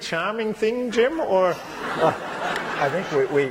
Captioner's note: laughter